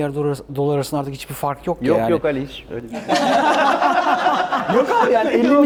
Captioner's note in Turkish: kahkaha